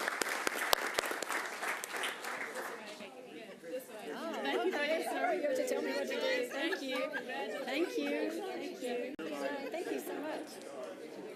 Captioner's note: applause